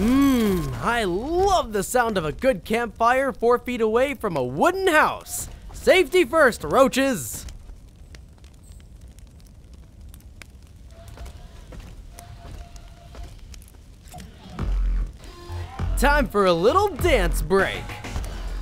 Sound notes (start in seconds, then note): 8.6 fire crackling; 18.3 techno music